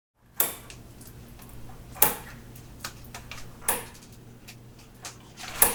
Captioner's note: light switch clicking